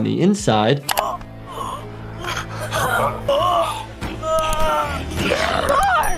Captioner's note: man grunts; man gasps; woman screams